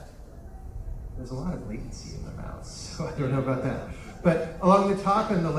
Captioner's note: muttering